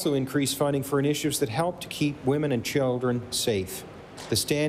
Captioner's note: applause